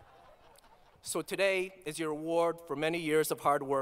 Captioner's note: laughter